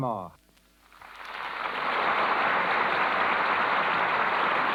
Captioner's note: applause